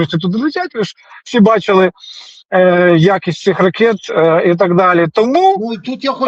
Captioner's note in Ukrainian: сопіння